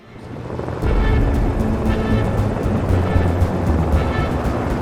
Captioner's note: helicopter thrums